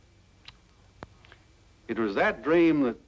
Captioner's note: lips smack